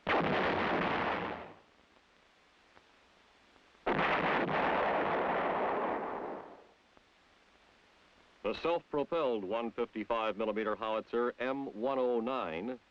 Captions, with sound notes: (howitzer booms) (artillery shell detonates) The self-propelled 155-millimeter howitzer M109